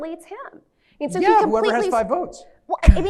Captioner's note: laughs